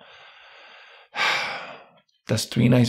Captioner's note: sighs